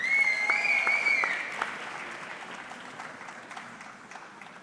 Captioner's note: audience clapping